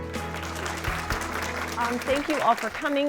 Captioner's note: applause